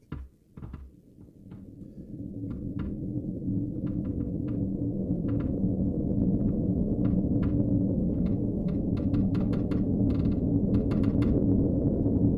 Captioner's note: creaking overhead